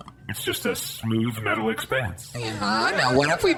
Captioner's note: audience laughter